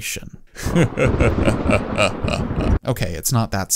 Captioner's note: ominous Laughter; thunder